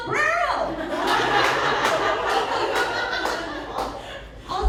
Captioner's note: laughter